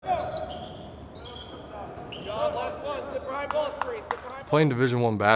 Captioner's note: basketball practice squeaks and communications